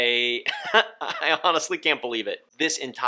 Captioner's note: chuckling